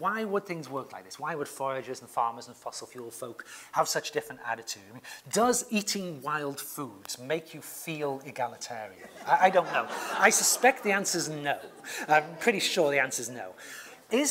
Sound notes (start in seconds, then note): 9.0 laugh